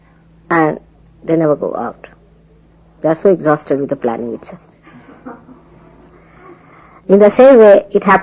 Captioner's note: laughter